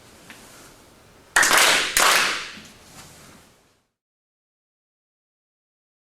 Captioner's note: everyone strong clapping